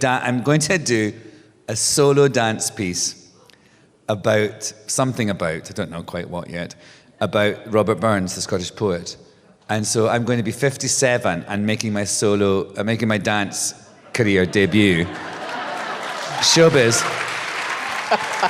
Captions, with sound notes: I'm going to do a solo dance piece about - something about, I don't know quite what yet - about Robert Burns, the Scottish poet. And so I'm going to be 57 and making my solo - making my dance career debut - [applause, cheers] Showbiz. [applause and cheers continue]